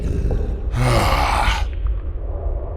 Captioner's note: sighs, annoyed